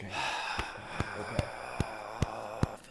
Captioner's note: sighing